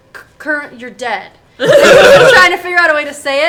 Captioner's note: all laugh